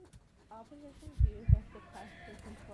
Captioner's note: heartbeat continues